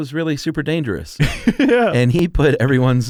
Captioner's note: laughs